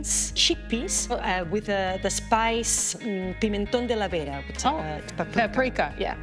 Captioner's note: speaking foreign language